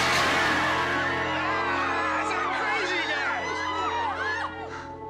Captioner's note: Все кричат